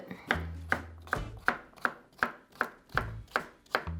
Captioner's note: knife chopping